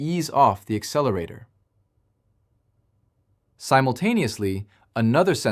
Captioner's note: pause